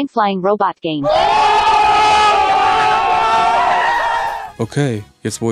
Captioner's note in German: Lauter Jubel